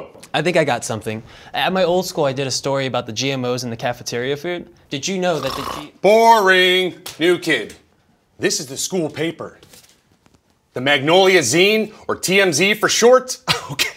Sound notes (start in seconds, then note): 5.4 snorts; 12.9 laughs